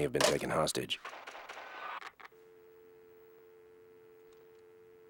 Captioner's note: gunshots, line disconnects; dial tone